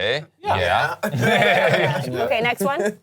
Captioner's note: all laughing